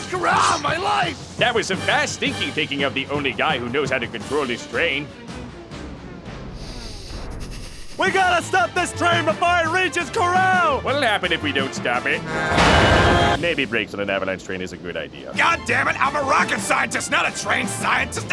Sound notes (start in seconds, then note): 5.1 music slows and stops; 6.5 shaky breathing; 12.3 train whistle blowing and explosions